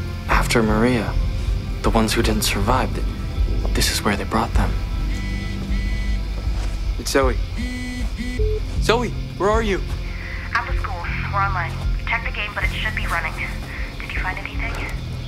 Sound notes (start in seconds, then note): 5.1 phone ringing